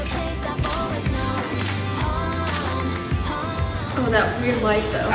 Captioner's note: camera clicks